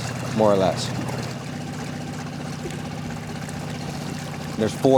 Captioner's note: water gushing